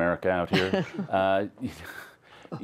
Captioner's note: laughter